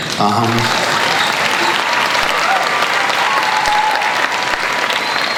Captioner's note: crowd cheers and applauds